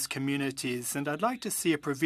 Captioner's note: speaking French